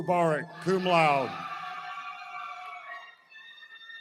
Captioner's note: cheering